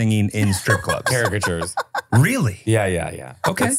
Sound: laughing

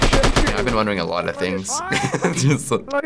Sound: laughs

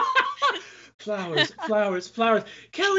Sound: both laughing; laughs

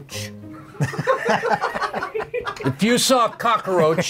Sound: laughing

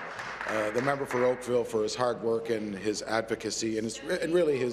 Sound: applause

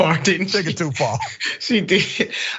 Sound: laugh

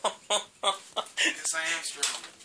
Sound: laughter

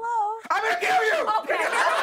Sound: laughter

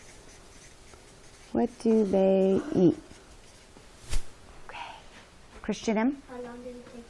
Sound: whispering

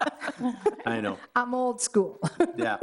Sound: all laughing

